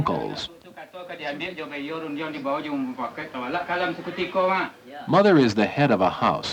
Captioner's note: Indonesian speech